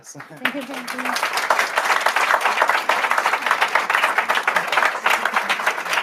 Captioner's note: applause